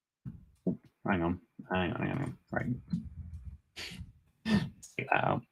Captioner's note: chuckles